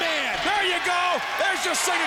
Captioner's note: crowd clamoring